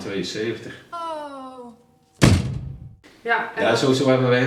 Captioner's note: door slams shut